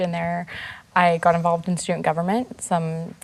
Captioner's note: none